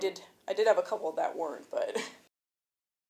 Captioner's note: nervous chuckle